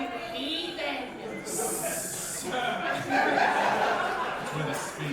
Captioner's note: audience chatter